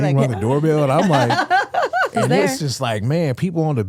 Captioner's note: Stephanie laughing